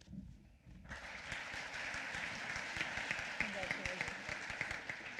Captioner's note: applause